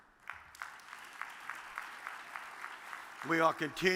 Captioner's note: audience claps